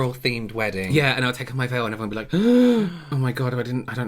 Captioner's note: gasps Of Suprise?